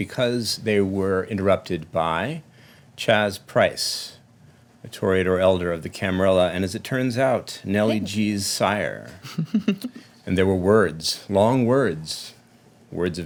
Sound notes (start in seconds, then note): 9.2 chuckling